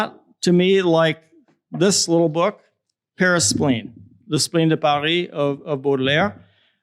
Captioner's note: french